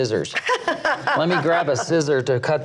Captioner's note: laughs